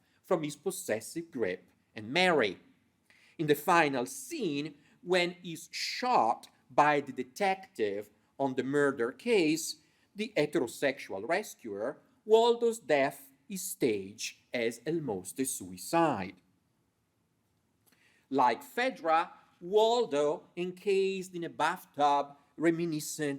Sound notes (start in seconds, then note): none